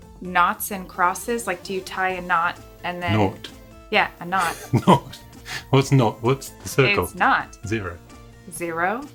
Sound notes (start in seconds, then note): 4.3 laughs